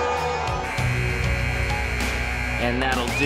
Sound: buzzer buzzing

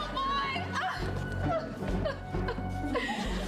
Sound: sobbing

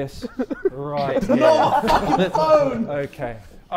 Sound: Sidemen laughing

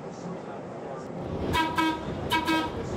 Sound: whistle tooting

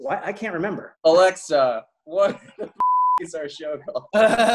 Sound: beep; laughing

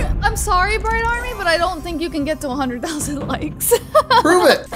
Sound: laughs

